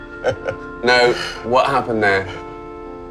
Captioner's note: laughing